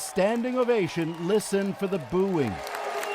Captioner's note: cheers and Applause